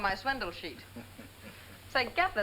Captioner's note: laughing